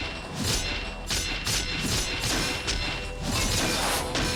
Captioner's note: pieces of suit clank as they lock into place